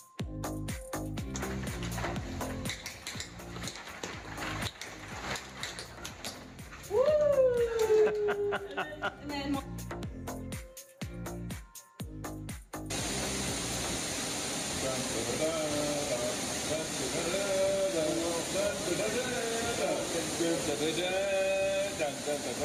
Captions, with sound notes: (feet tapping) (student cheers) (videographer laughing) (electronic dance music) - (sing-songy) Dan-da-da-dan, dan-da-da-dan, dan-da-da-dan, dan-da-da-dan, dan-da-da-dan,